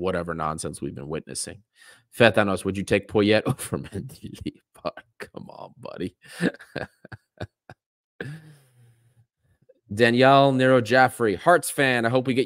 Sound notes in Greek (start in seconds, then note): 6.3 Γέλια